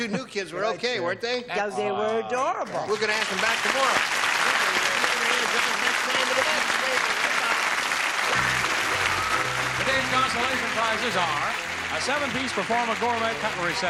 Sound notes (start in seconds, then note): 4.6 applause